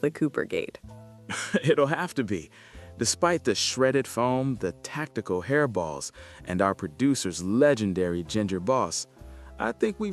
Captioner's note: chuckles